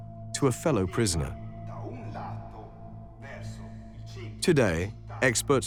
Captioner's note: speaking Italian